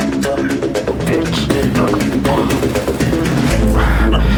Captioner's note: Raquel choking